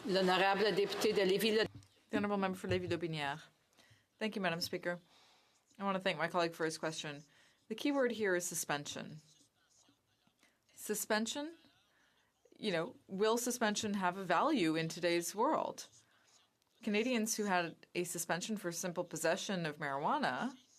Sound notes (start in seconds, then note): 4.1 speaking French